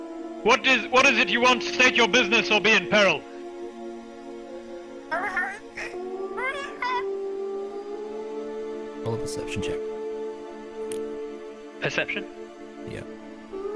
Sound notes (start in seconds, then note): 6.3 squeaky hungry noises